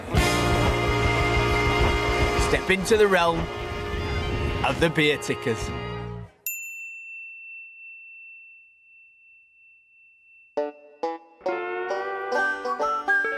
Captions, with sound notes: Step into the realm, of the beertickers. (ding) (upbeat country music)